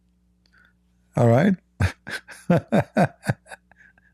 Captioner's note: Ketawa